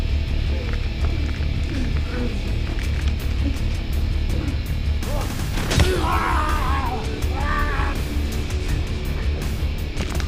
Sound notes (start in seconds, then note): 5.7 Gundra screams